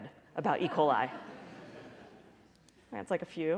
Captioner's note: laughter